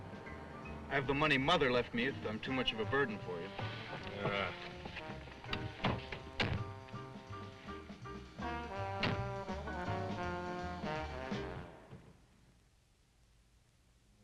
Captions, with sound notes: I have the money Mother left me if I'm too much of a burden for you. (Otto grunts) (upbeat jazz music)